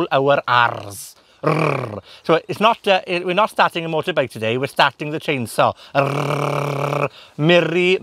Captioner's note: makes chainsaw engine noise